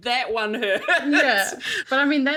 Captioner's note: laughs